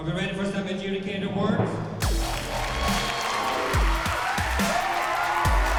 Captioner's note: cheering